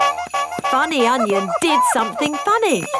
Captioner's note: shoes honking